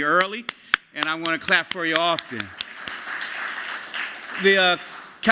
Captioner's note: applause